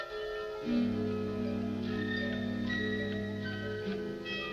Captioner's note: timer ticking